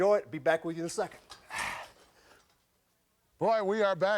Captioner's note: grunts